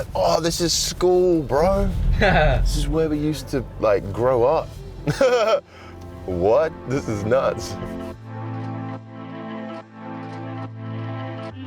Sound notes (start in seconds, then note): 2.5 Jarvis laughs; 5.0 laughs